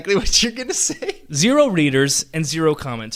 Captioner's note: laughs